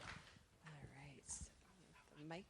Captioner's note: applause